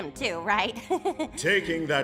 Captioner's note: laughs